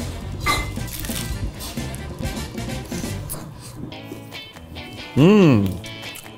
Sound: egg rolls crunching; upbeat music

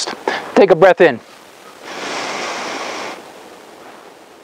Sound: inhaling

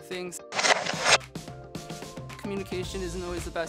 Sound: text whooshing

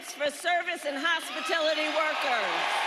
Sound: cheering and applause

